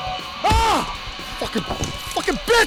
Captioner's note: shouting